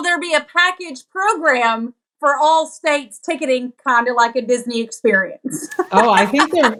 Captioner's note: laugh